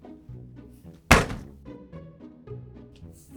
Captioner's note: thud!